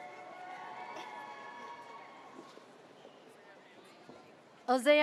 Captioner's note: audience cheers